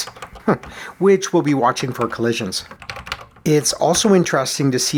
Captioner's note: chuckles